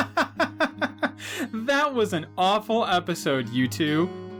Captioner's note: mocking laugh